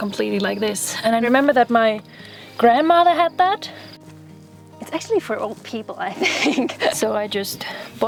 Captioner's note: laughter